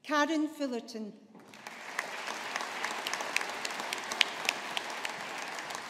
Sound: audience applauding

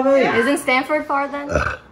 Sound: burp

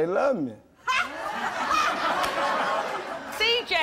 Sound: audience laughing

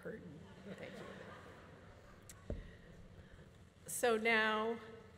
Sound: audience laughing

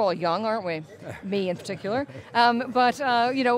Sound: chuckles

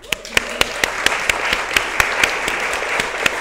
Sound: applause

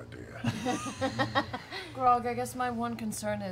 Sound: laughing

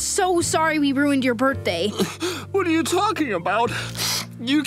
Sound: sobbing

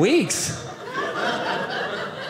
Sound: audience laughing

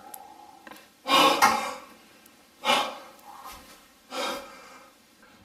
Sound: labored breathing

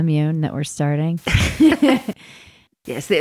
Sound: laughing

